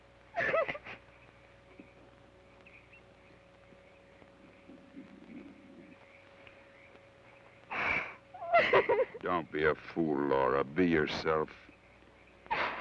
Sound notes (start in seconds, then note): 0.3 sobs; 7.7 sobs; 12.5 Laura sobs